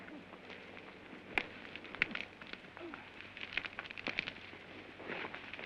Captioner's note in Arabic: تشتعل النيران